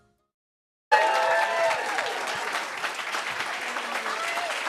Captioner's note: cheering and applause